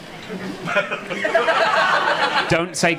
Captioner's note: audience laughing